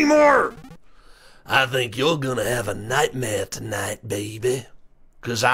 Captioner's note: normal voice; goofy voice